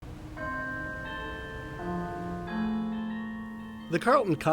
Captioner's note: bells chiming